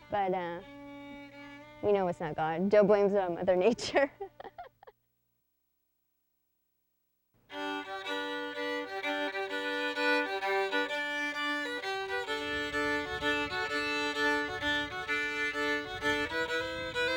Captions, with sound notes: but we know it's not God. Joe blames it on Mother Nature. (laughs) (lively fiddle music)